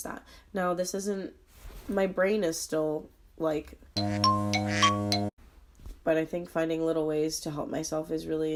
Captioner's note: quacking, odd clock sounds, foghorn